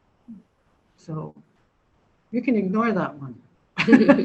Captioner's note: laughs